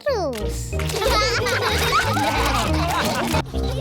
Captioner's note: all laugh